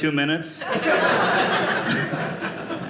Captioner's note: audience laughing